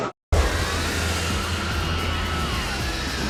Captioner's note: screaming & T-Rex roaring